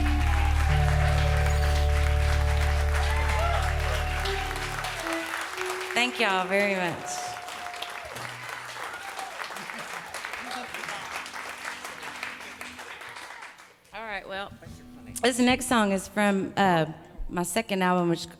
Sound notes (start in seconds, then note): 1.8 cheering and applauding